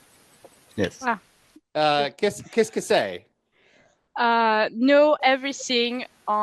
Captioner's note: translating from French